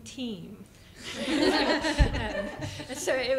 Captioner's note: laughter